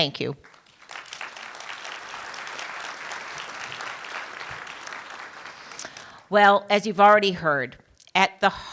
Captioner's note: applause